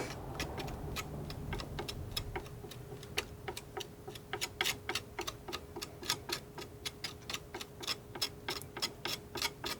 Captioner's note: tapping